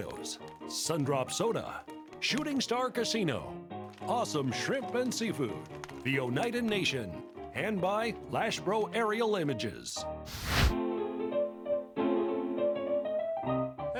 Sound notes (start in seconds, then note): 10.2 fire burning; 10.7 piano music